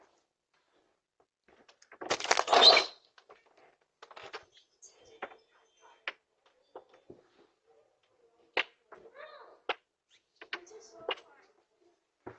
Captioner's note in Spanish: Charla indistinta